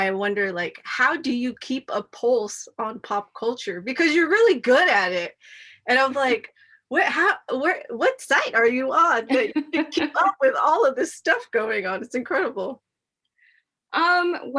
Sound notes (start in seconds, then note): 9.3 laughs